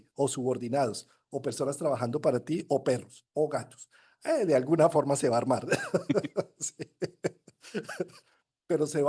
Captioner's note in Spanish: risas